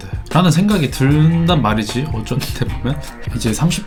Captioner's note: but am I also in the gym now? - sound very skeptical